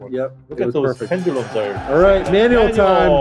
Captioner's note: bell ringing